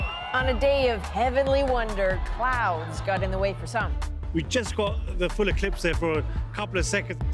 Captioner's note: cheers and Applause